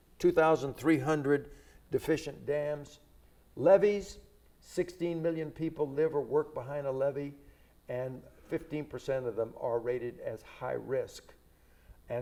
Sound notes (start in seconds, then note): none